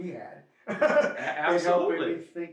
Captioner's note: laughs